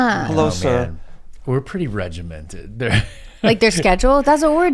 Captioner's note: chuckles